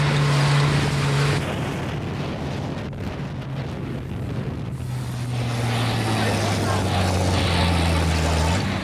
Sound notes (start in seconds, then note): 4.8 laughter and engine noise